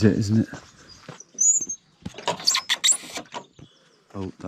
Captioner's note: gate lock metal whining